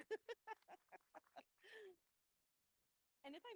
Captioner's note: laughs